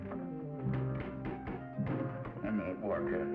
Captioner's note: hammer thudding